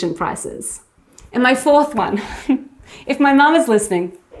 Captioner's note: laughs